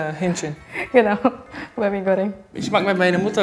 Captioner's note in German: lachend